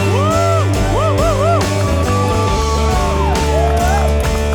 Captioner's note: cheering, applause